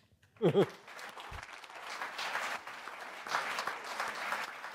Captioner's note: applause